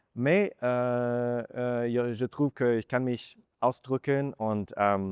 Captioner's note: in German